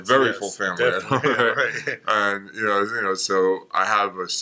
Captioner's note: laughs